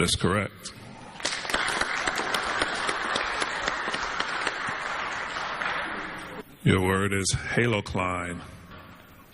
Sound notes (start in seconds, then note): 4.4 clapping